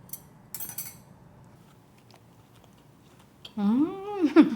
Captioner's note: chopstick clinking